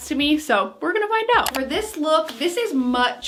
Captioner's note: clicking